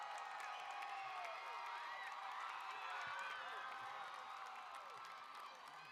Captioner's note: applause